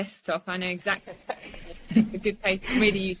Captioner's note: laughs